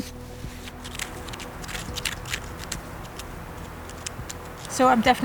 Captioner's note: scraping sound; laughs